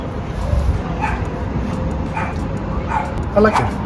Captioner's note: lettuce crackling; dog barking